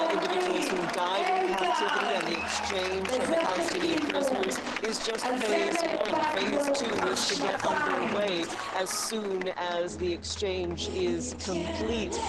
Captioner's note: audio over reporter